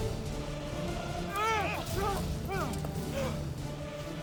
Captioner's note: shouting, fighting